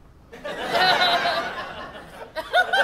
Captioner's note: audience laughter; more audience laughter